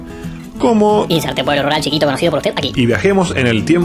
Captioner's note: high pitched voice